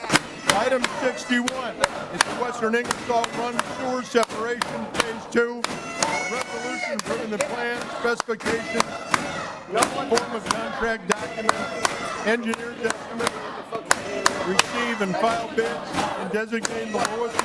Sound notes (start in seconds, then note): 2.9 audience chanting we vote no